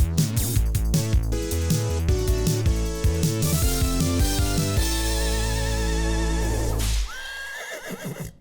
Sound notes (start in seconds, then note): 6.8 whip cracks; 7.1 horse whinnies